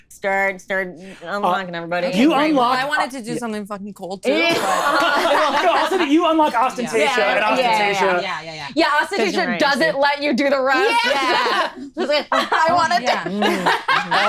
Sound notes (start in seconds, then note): 4.3 all laughing